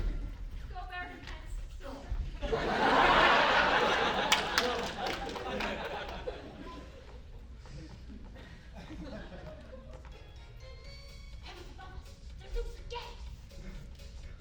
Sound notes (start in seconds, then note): 8.4 shuffling; 13.8 wacky music